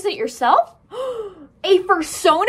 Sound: gasp

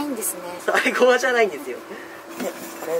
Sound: laughter

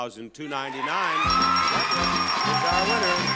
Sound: bells dinging

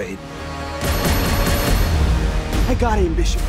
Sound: explosion; gunshots

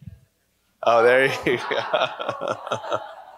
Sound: laughs; laughter

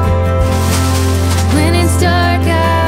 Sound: Legos rustle; running footsteps

